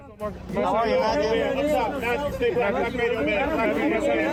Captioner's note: people chattering